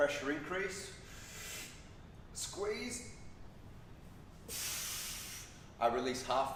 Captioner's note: inhales; exhales